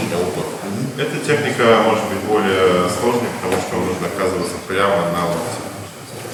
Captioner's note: speaking in a foreign language